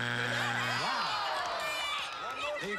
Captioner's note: buzzer; cheering